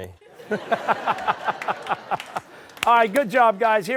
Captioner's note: laughter